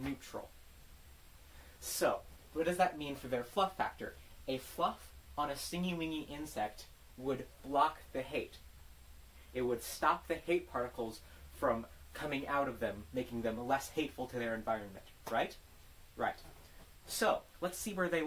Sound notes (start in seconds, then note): 15.2 clap